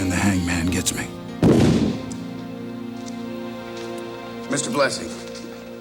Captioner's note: camera flash pops